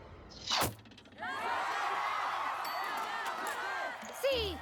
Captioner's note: cheers